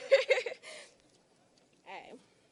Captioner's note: laughing